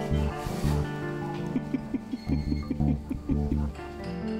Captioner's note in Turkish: Gülüyor